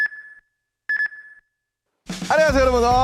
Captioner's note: خاموش